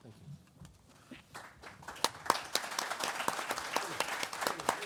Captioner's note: audience applauds